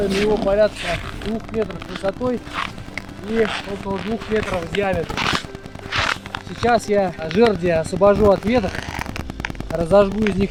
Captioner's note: the sound has technical cracking because of strong frost